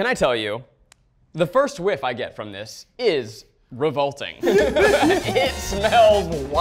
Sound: all laughing

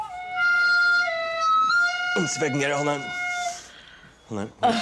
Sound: strained; laughing

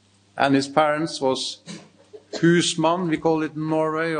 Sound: speaks in foreign language

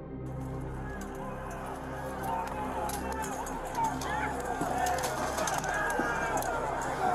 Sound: indistinct screaming

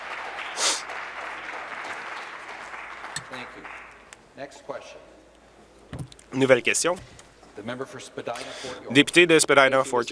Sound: applause

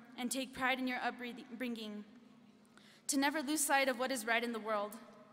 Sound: none

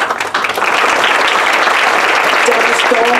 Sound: applause

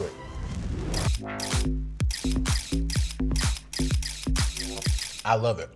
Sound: camera shatters; upbeat music

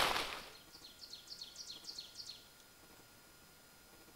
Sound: birds chirping

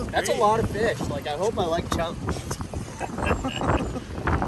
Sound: laughs

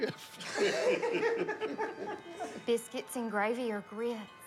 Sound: laughter

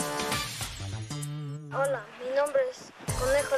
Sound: speaking spanish

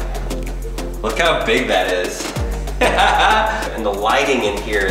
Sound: laughs

